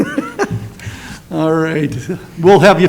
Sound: laughs

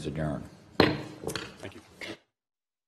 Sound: gavel banging

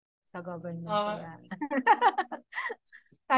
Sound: laughs

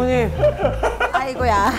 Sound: haha

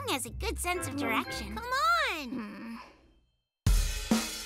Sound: hesitantly; lively music playing

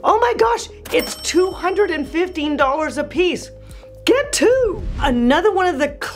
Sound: bell rings

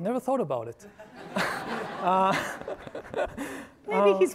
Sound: audience laughing

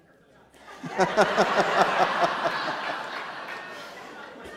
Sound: laughter

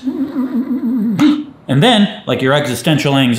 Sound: startled grunt

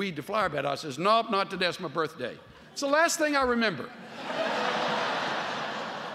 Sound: laughter

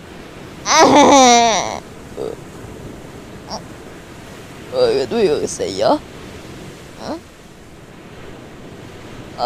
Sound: eating ice popsicle

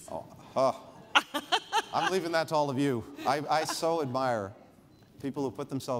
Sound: laughter

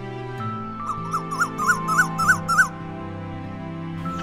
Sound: Asian koel call; Rufous treepie call

